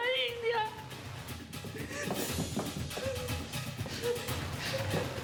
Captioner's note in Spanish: sollozos